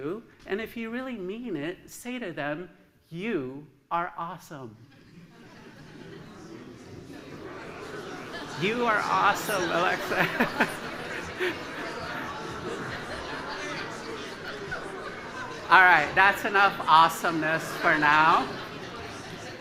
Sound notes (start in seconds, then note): 5.1 laughter; 6.3 murmurs of “awesome“; 18.0 laughter